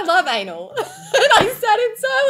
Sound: women laughing

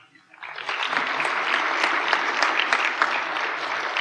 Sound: applause

